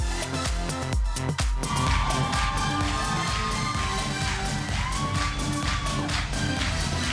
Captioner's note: applause